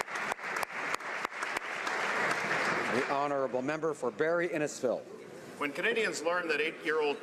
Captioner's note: applause